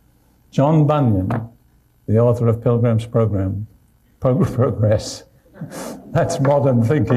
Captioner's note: laughs